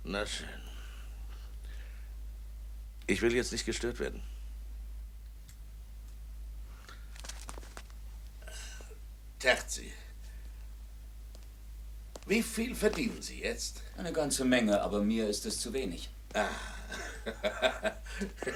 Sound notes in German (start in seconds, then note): 16.3 gelächter